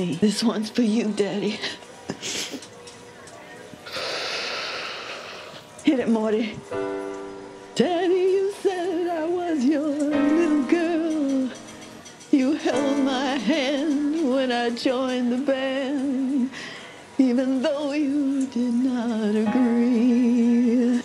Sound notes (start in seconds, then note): 3.8 uses inhaler; 6.7 plays chord; 7.8 sings